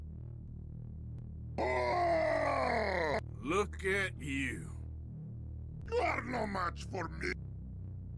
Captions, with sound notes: (asserted dominance scream) look at you.. you are no match for mEh